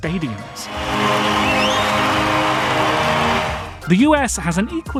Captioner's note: crowd goes wild